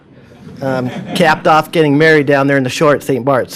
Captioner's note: laughter